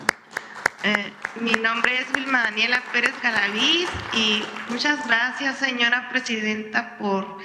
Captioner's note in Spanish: aplausos